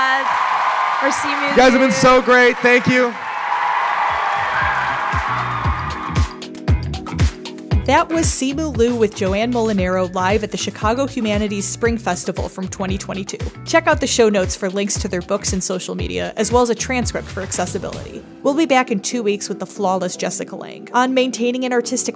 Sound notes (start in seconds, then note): 4.6 audience applause